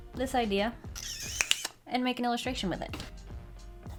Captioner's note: snaps fingers